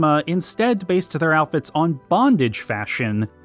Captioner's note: none